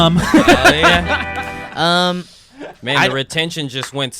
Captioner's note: laughing